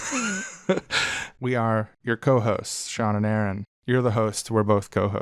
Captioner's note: laughs